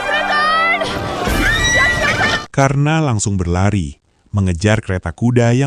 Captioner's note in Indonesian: berteriak